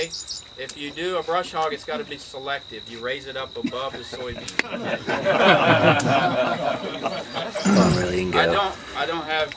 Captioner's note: crowd laughing